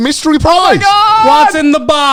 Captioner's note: yells loudly